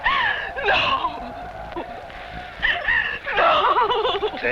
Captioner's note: whimpers